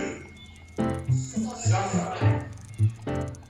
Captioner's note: group voices